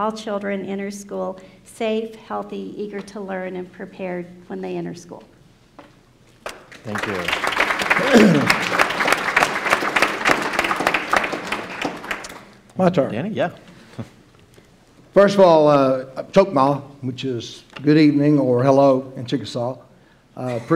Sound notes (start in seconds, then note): 6.4 applause